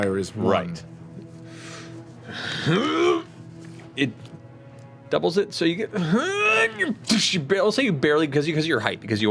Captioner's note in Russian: кряхтит